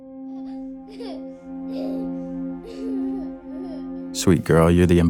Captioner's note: child giggling